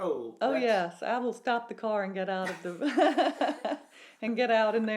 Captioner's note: laughs